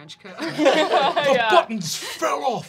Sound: laughing

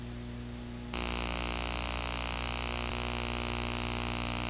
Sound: buzzing

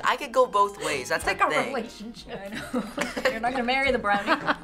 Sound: laughs

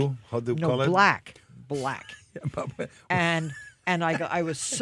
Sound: Jose laughs

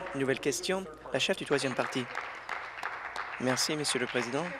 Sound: applause

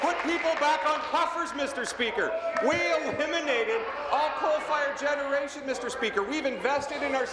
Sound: applause

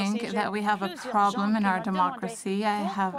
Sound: speaking French; voice of translator

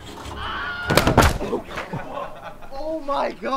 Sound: joke scream sound

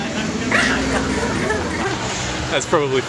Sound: laughing

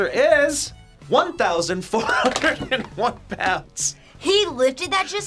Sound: laughs

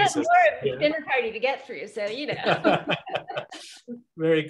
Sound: laughs

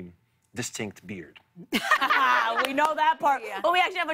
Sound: laughs

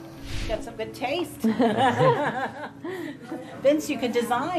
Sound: laughs

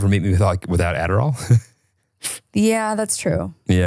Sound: snickers

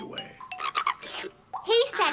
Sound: Boggart gibbering

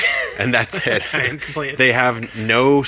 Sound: laughing

